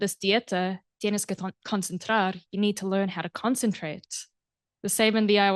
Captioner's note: non-english speech